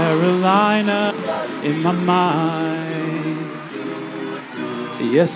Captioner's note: cheers and applause